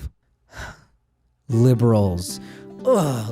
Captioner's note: sighs